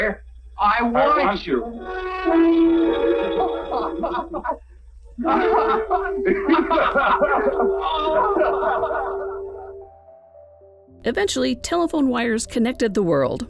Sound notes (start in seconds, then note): 5.2 laughter